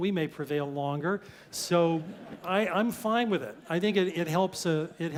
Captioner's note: laugh